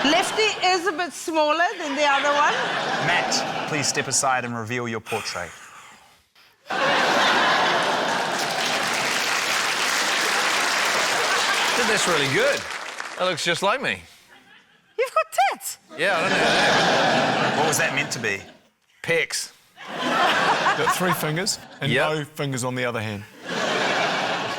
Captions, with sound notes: Lefty is a bit smaller than the other one. (LAUGHTER) - Matt, please step aside and reveal your portrait. - (EXHALES) (LAUGHTER, APPLAUSE) I think that's really good. It looks just like me. - You've got tits! - Yeah, I don't know how that happened. - What was that meant to be? - Pecs. (LAUGHTER) - You've got three fingers, and no fingers on the other hand. - Yep